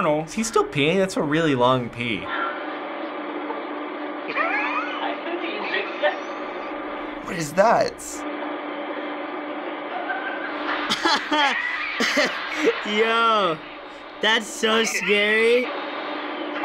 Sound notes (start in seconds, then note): 4.3 man laughing; 10.8 laughs